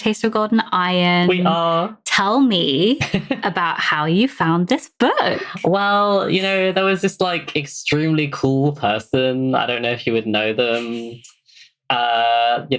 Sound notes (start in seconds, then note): 6.3 laughs